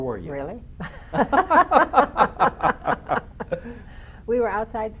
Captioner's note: laughing in unison